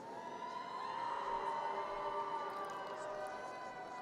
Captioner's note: audience cheers